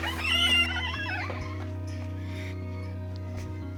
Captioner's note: door creaks